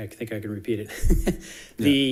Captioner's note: chuckling